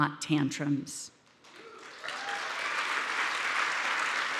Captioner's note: audience applauding